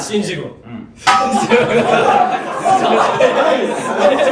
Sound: everyone laughs

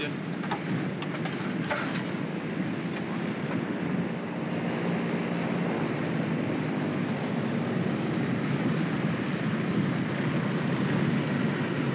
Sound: aircraft rumbles

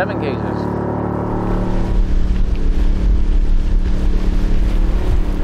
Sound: boat motor rattling

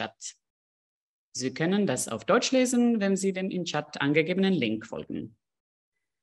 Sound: speaking French; speaking German

